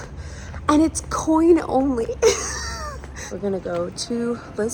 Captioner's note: laughs